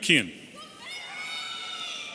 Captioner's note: audience cheering